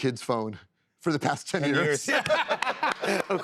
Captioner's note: laughter